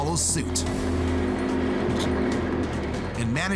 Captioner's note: car engine revving